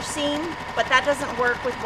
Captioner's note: machine speed intensifies